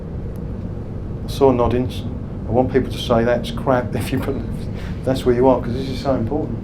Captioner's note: laughs